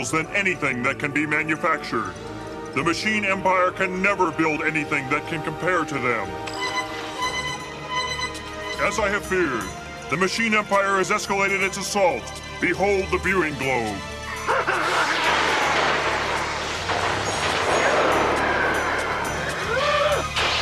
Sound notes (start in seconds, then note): 4.7 alarm sounds; 12.6 laughing